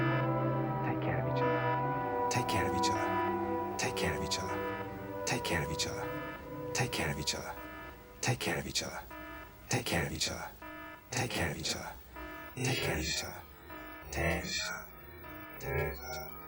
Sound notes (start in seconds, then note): 8.2 echoing